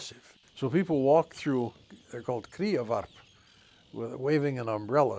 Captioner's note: speaks Icelandic